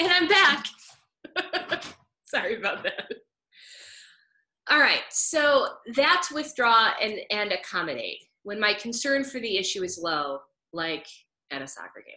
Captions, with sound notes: And I'm back. (laughs) Sorry about that. All right, so that's withdraw and accommodate, when my concern for the issue is low, like at a soccer game.